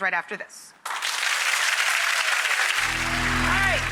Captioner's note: audience applause